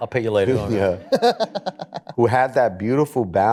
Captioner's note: laughs